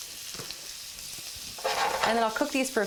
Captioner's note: food sizzles